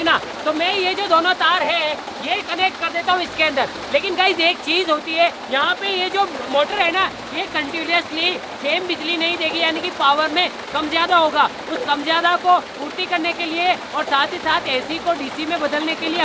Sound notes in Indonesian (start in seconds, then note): none